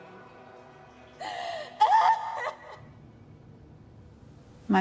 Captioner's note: sobbing fades